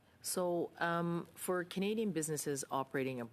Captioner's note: speaking French